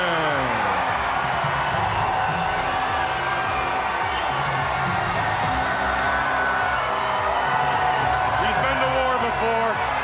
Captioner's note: crowd cheering